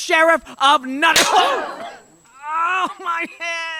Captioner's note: Robin's head is banged against the cell bars. Crowd gasps